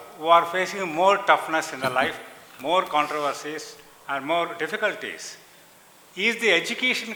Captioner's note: Sadhguru laughs